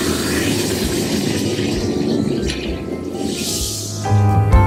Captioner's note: bubbling volcano